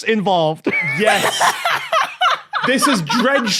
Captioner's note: laughs uproariously